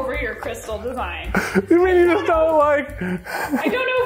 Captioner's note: laughs